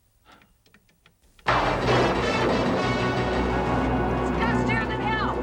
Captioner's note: dramatic music; thunder rolling